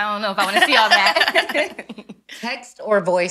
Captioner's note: ladies laughing